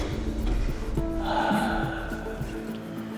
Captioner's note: sighing